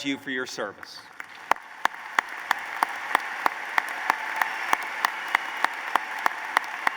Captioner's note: applause